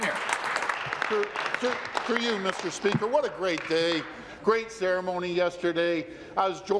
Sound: applause

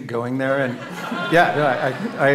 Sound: audience laughs

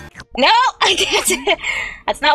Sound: laughs

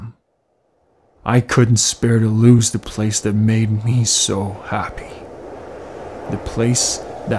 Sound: wind blows

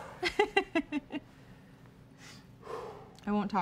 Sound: giggling

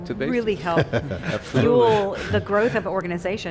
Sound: laughing

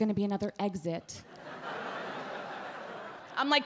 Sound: audience laugh

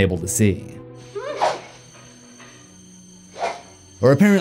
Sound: blade swiping

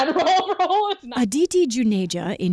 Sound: laughter

